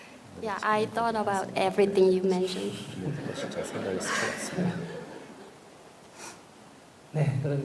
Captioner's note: audience Laughter/Questioner Sigh